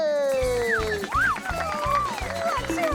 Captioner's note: applause